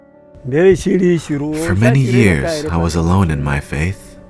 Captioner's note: speaking in foreign language